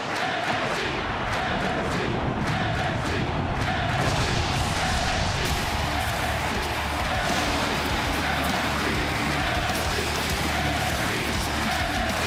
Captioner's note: audience chanting "nxt"